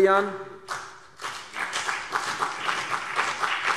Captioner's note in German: Beifall CDU und BÜNDNIS 90/DIE GRÜNEN